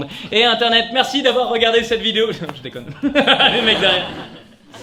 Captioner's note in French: rire sadique